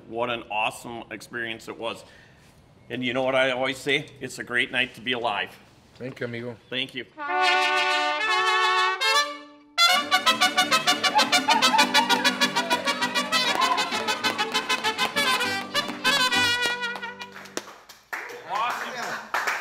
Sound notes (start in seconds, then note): 7.5 mariachi music; 10.9 cheering; 13.5 mariachi music